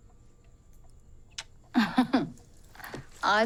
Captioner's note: kisses; giggling